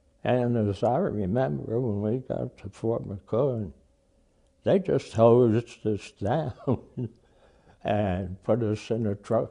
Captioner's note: laughs